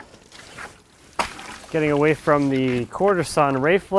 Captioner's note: water sloshes